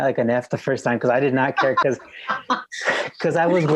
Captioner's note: laughs